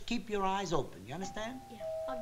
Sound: doorbell

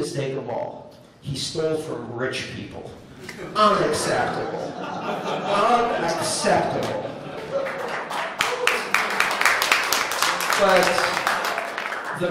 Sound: laughter; applause

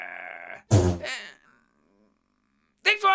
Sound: fart

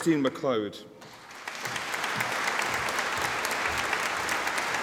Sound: audience applauding

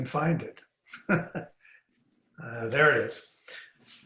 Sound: laughs

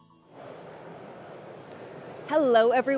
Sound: crowd chattering

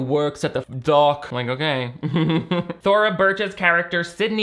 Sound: chuckles

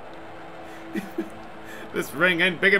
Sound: chuckle

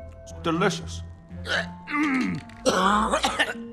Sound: coughing; gagging

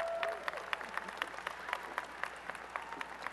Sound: applause and cheering

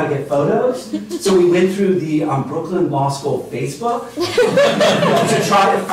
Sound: laughter

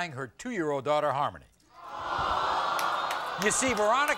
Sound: audience gasps

